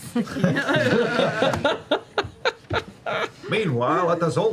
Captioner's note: laughter